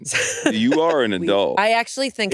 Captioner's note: laughs